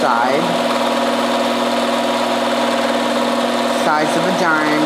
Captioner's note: machine whirring